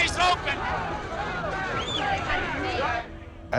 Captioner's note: clamoring